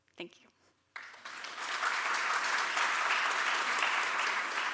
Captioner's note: audience clapping